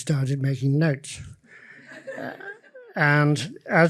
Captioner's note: audience laughs